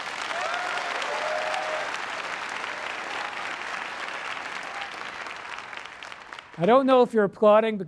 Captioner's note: applause